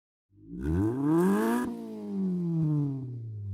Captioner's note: engine revs